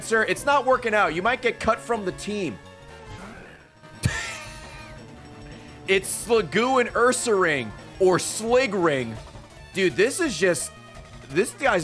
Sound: laughs

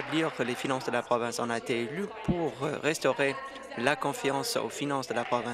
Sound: applause

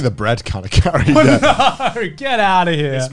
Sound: laughing

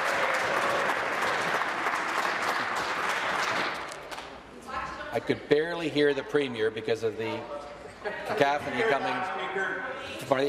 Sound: applause

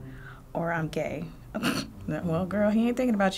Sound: snorting

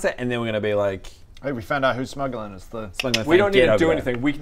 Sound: click click

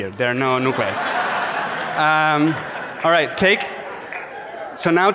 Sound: audience laughs

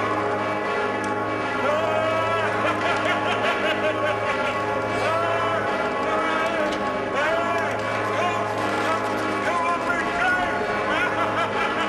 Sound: laughing

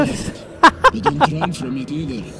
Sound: laughs

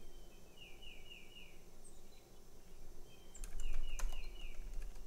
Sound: birds chirping

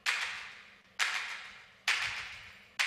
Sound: rhythmic clapping

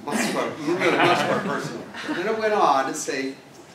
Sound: laugh

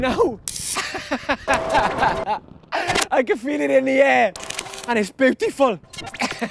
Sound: laughs; man laughing

